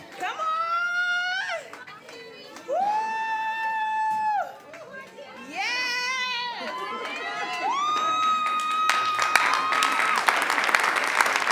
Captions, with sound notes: Come on. Whoo. Yeah. (cheering) (clapping)